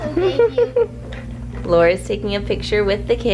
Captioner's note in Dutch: Moeder lacht